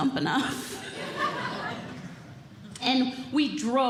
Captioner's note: audience Laughing